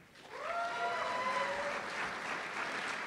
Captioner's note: applause